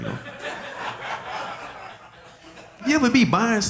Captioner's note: audience laughing